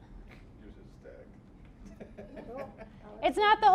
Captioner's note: laughing